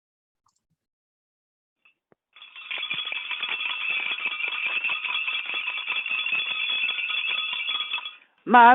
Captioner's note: bell rings